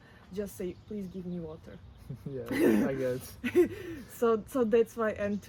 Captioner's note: laughs